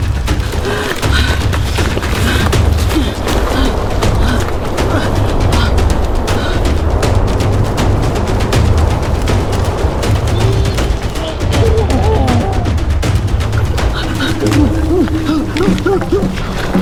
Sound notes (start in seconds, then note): 0.4 Luna panting; 7.8 dramatic music continues; 11.3 ape grunting